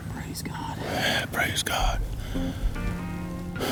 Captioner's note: whispering